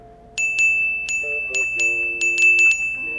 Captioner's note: dinging